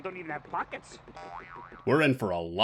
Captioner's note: boioioing